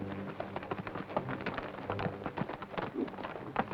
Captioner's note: hooves clop